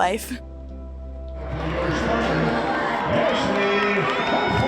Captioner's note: crowd cheers